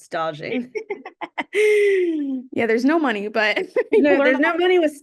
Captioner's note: laughs